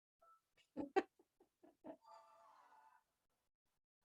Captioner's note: chuckles